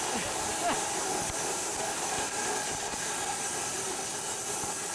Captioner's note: saw blade whirring